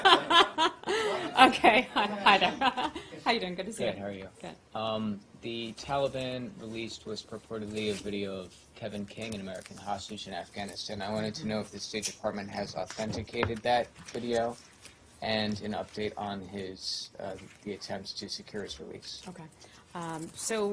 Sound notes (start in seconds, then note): 0.0 laughter